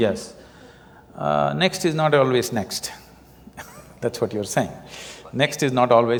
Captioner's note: laughs